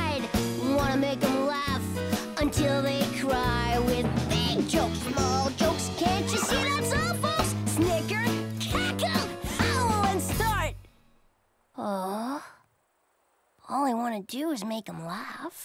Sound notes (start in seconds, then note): 11.7 sighs